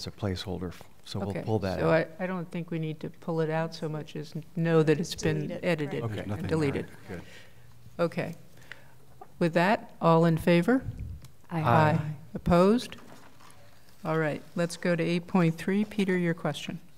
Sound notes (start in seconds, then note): 11.5 multiple voices